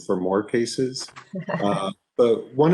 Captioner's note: chuckles